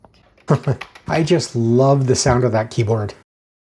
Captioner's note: chuckles